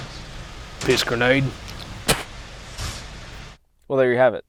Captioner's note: spitting